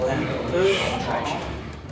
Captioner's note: scoffs